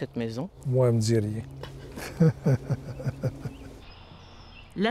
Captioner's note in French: rire